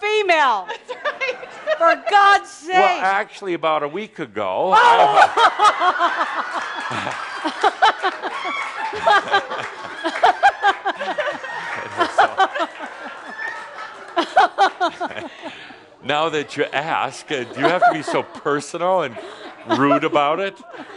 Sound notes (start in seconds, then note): 0.7 giggling; 7.9 lots of laughter; 20.7 more chuckles